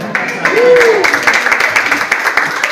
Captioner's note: audience applauds